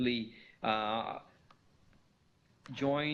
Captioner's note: pause